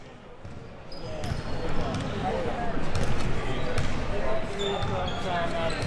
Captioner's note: audience chattering